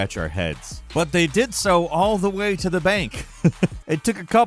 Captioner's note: chuckles